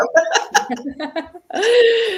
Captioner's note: laughter